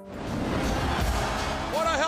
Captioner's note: audience cheering